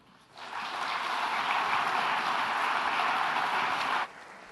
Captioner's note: audience applauds